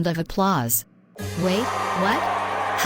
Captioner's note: people cheering